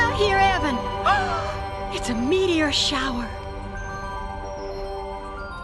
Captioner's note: gasps